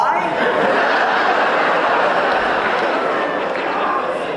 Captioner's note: audience laughs